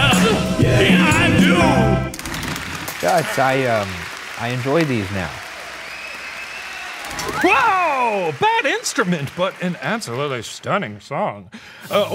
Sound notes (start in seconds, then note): 2.2 curtain rattles; 2.4 audience cheers and applauds